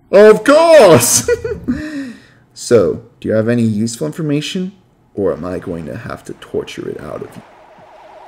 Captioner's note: giggles